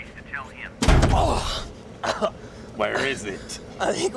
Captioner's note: slams, Pruitt grunts, coughs